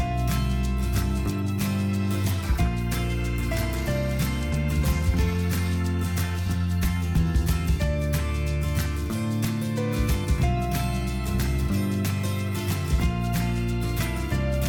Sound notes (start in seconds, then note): 1.8 marker scrapes